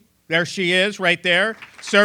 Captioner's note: applause